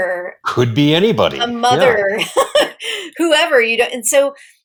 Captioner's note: laughs